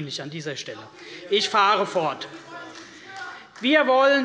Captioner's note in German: Zuruf der Abg